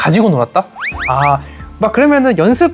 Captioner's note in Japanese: こくこくこく